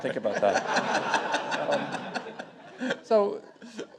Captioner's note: audience laughing